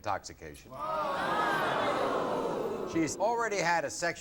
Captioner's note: audience groaning